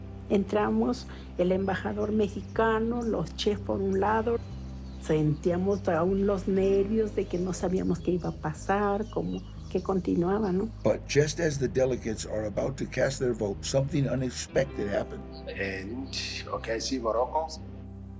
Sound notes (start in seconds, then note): 10.8 in English